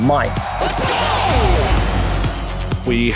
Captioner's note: crowd cheering